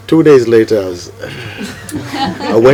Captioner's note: laughter